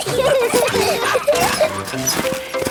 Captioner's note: peppa and george laughing; straining